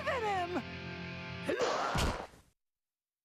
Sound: grunting

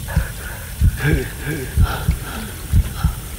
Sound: gasps

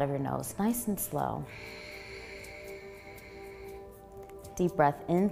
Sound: exhaling

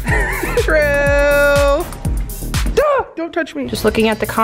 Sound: yells

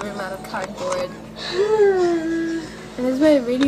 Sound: girl sighs in video

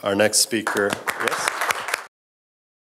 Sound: applause

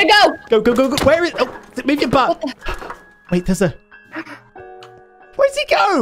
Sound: gasp

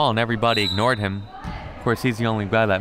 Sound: whistle

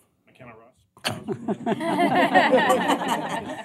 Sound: laughter

